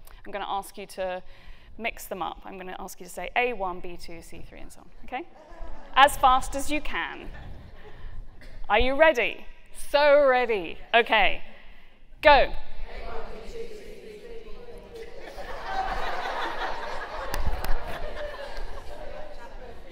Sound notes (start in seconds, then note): 12.8 audience counting; 15.1 laughter